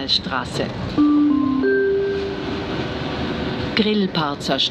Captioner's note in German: Gong